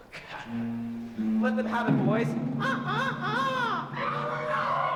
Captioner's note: crows